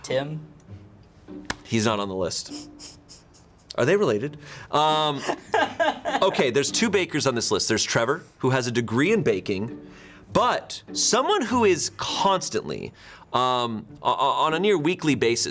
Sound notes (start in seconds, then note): 2.5 crew member chuckling; 5.2 crew member laughing